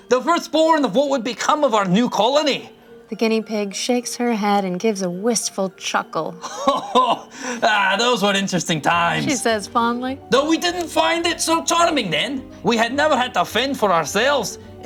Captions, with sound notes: "The firstborn of what would become our new colony." - "The guinea pig shakes her head "and gives a wistful chuckle." - (chuckles) "Those were interesting times." - "She says fondly." - "Though we didn't find it so charming then. "We had never had to fend for ourselves,